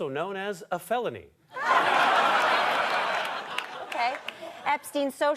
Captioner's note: audience laughter